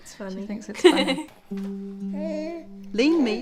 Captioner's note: baby noises